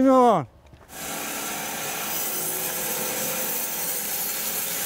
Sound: saw blade humming

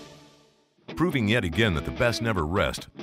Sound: voiceover

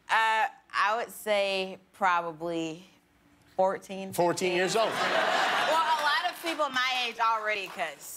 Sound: laughter

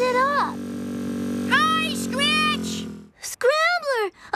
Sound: engine Revving

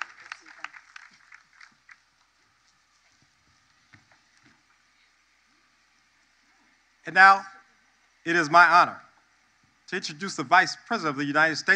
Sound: applause

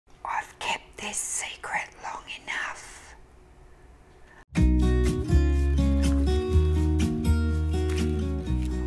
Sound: whispering

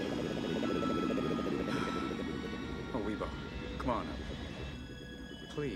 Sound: sighs

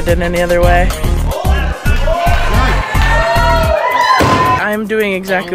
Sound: crowd cheering

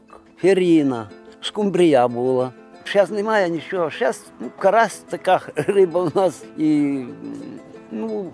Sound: laughing

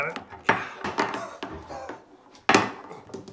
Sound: goonish wheezing

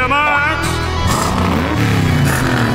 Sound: accelerating

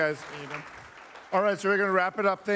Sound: applause

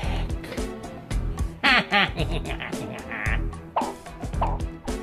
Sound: laughs

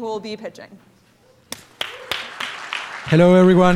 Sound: applause

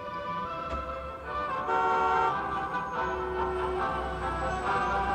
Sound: car horns honking

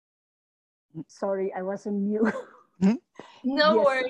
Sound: laughing

